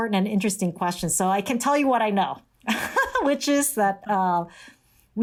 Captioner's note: laughter